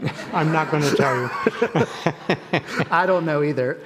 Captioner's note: people laughing